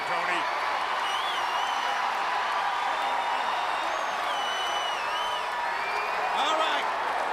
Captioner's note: crowd cheering